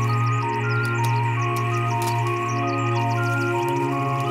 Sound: birds singing

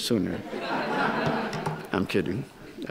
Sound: audience laughs

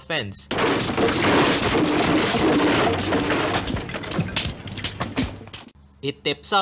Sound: crashes into a fence

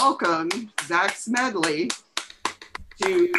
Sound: applause

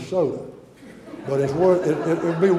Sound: audience laughter

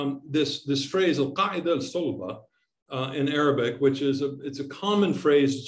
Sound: speaking in Arabic

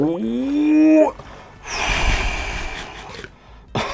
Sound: breathes out heavily; laughs nervously

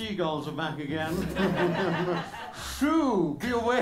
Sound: laughter

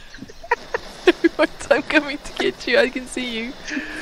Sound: more laughter; laughing

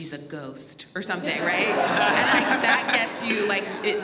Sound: audience laughs

